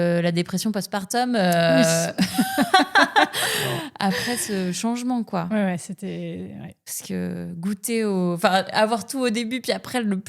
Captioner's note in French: rires